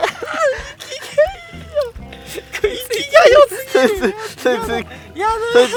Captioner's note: laughs